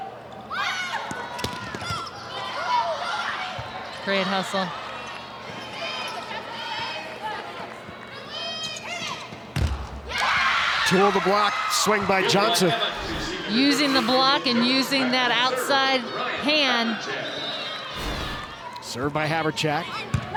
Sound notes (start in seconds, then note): 0.1 players shouting indistinctly; 5.8 players shouting indistinctly; 9.6 ball thumping; 10.0 audience cheering